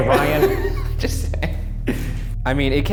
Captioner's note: laughs